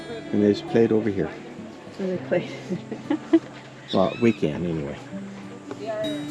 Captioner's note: laughs